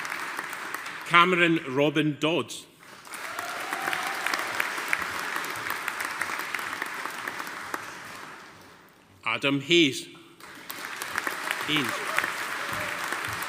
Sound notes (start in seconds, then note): 2.9 audience applauding; 10.4 audience applauding